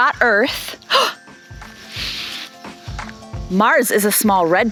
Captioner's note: gasps